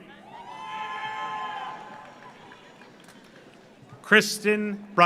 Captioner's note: audience cheers; audience applauds